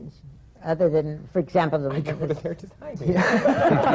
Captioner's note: laughter